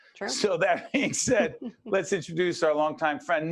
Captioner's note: laughing